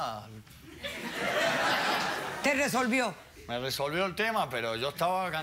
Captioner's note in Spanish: Risotadas